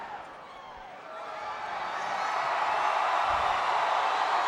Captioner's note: audience cheers